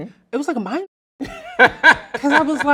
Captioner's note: laughs loudly